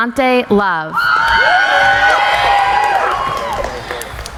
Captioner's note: cheering